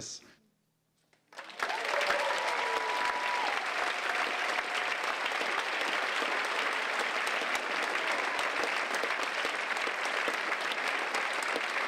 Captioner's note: applause